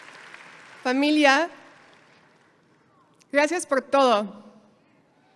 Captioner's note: speaking in a foreign language